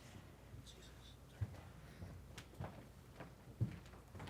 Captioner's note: whispering